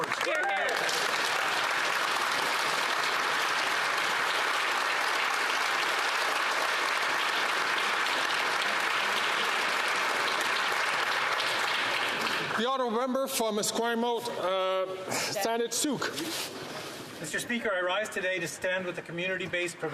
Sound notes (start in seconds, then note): 3.0 some Applause